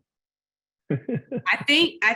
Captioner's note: laughs